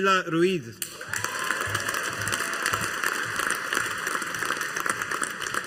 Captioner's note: audience applauding